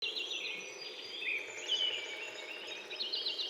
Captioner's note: birds chirping